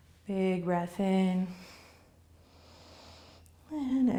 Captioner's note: inhaling